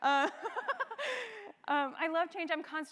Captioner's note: laugh